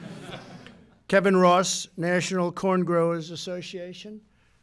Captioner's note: laughter